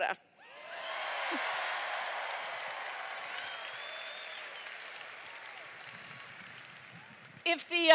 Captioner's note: cheering